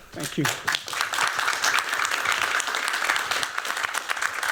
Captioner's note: applause